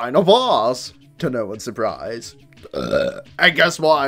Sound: burps

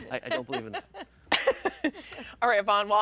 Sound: laughing

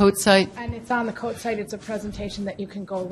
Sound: voiceover

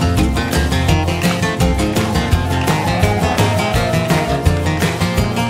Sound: cheers

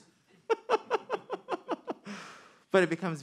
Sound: man laughing

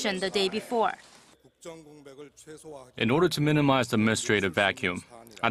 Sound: Korean

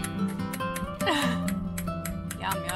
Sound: chuckles

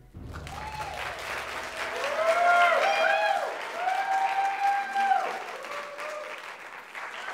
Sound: applause

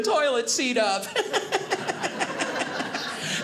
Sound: audience laughing

